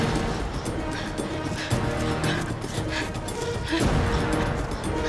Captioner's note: heavy breathing